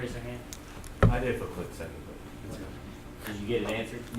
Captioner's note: voiceover